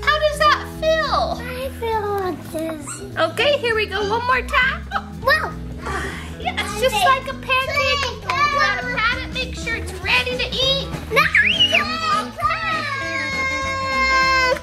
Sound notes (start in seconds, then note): 11.1 laughing